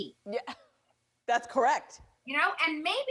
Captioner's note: laughs